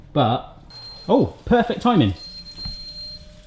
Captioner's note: beeps